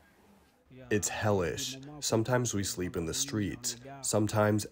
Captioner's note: through translator